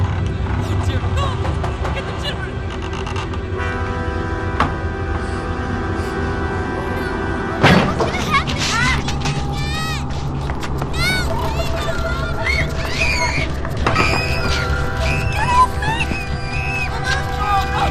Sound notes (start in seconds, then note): 2.9 dramatic music continues; 11.7 children screaming